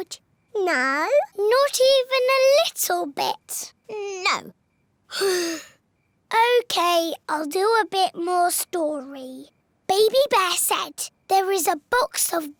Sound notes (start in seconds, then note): 5.1 sighs